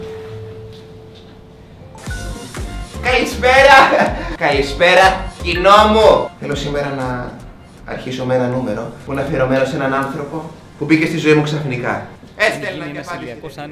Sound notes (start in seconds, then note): 2.0 happy music; 3.5 laughs